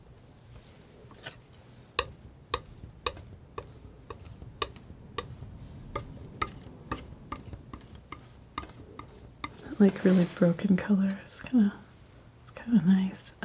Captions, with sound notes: [tapping] That really broken color is kind of nice.